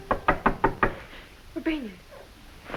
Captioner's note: door knocks